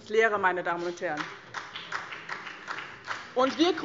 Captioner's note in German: Beifall BÜNDNIS 90/DIE GRÜNEN